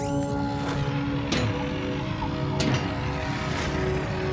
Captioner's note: metal clanks